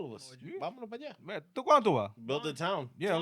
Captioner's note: speaking In Foreign Language